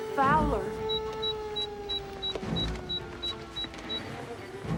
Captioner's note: beeping